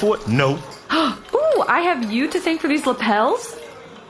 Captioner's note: excited